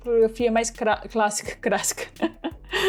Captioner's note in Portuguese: risos